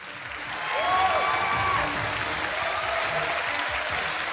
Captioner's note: audience applauding